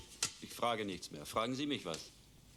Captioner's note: speaking german